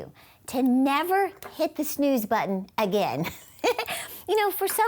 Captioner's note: chuckles